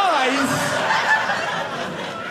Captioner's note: audience laughing